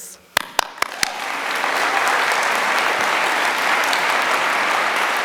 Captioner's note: applause